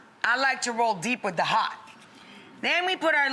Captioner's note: none